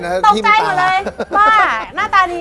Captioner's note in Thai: หัวเราะ